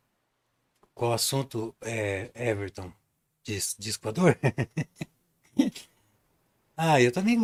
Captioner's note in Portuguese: risadas